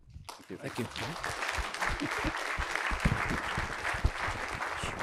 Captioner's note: applause